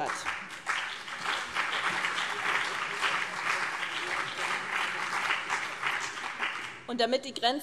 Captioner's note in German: Beifall BÜNDNIS 90/DIE GRÜNEN und vereinzelt CDU